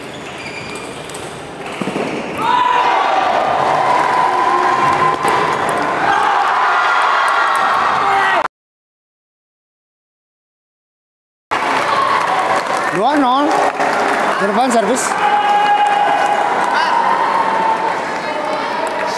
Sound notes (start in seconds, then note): 2.6 applause